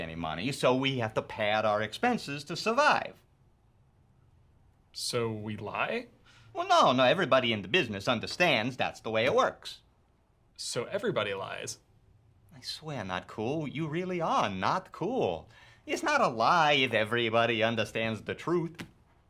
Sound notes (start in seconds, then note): none